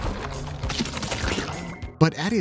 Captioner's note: squelching